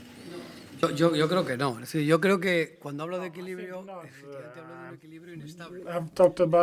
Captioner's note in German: spanisch